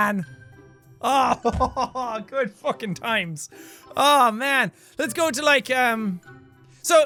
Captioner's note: laughs